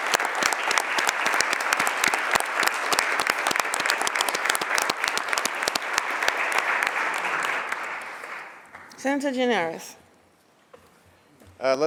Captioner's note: applause